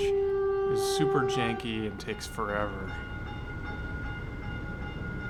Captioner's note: Caltrain horn blows as it pulls into the station